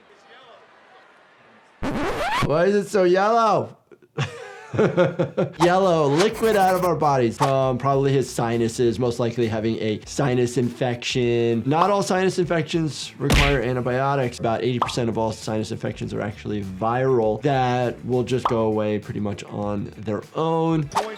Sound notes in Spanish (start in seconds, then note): 1.8 el registro salta; 3.9 risas